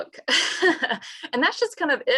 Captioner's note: laughs